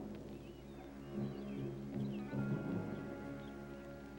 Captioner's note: birds chirping